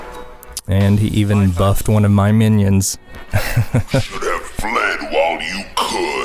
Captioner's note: haha